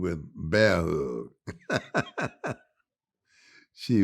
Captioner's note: chuckles